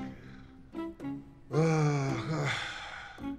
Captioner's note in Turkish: İç çeker